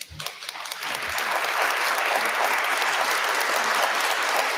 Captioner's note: audience applauding